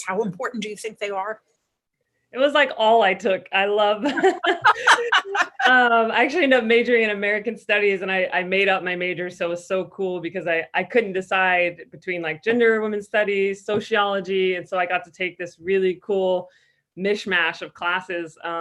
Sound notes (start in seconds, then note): 4.2 laughs